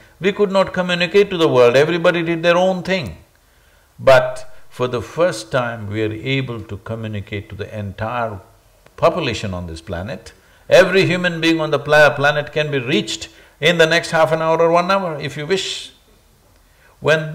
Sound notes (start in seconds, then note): none